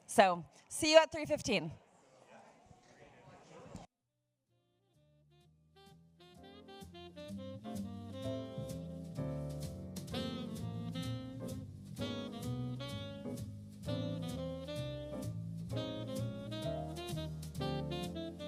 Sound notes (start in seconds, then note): 1.8 people chattering; 5.5 light jazz music